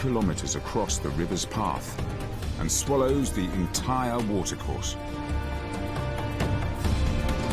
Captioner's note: uplifting music; water rushing